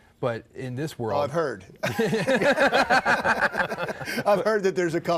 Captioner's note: all laugh